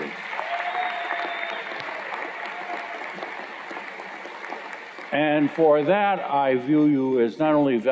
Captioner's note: cheers and Applause